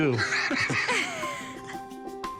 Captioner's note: laughter